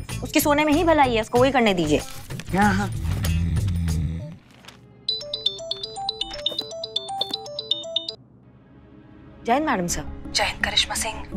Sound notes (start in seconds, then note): 3.0 comical music; 5.1 mobile ringing